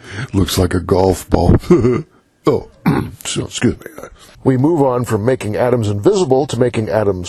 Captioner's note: chuckle